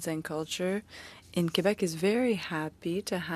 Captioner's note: speaking french